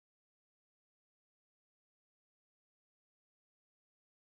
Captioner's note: none